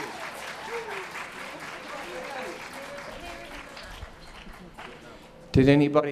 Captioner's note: applause